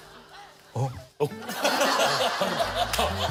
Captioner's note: sobbing